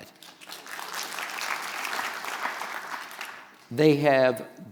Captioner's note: audience applauds